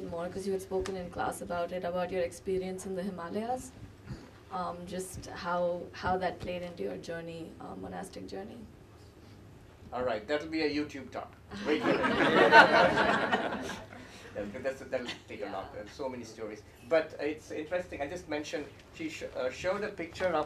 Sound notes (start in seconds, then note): 11.6 laughter